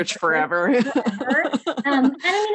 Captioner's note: laughs